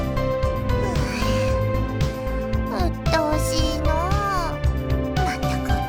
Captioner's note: sigh